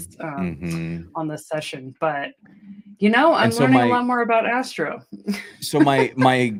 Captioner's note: laughter